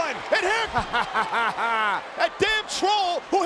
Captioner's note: person laughing